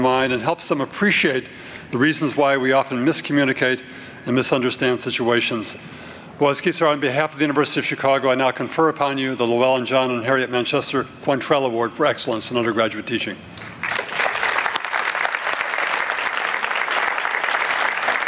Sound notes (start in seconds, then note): 13.6 applause